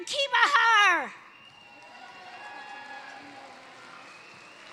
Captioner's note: cheering, applause